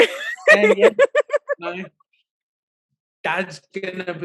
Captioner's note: laughing